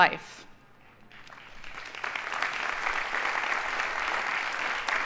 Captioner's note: audience applauding